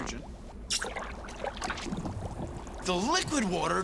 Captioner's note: bubbling